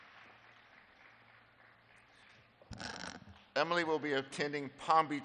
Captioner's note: applause